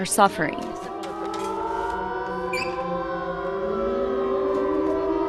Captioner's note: sirens wailing